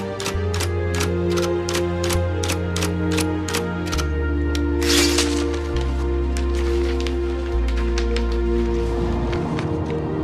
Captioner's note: typewriter clacking